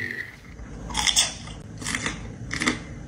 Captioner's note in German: Knacken